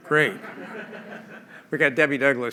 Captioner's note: laughter